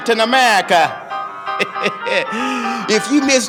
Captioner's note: laughing